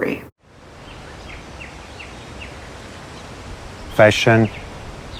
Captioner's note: bird and forest sounds